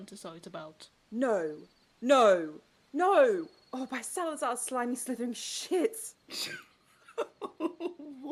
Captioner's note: James laughs